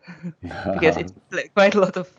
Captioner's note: both laugh